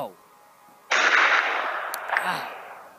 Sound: gunshot

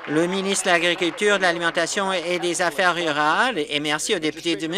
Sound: some Applause

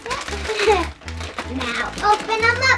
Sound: laughs

